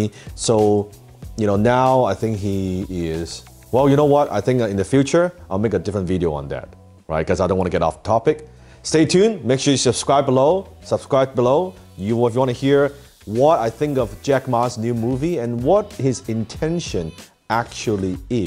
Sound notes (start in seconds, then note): none